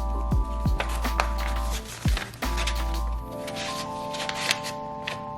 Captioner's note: paper scratching